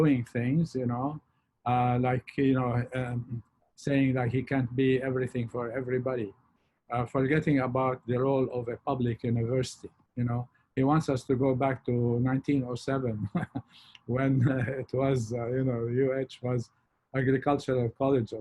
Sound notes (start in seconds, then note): 13.0 chuckles